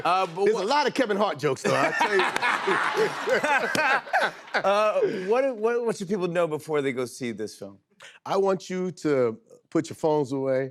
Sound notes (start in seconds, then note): 1.6 laughter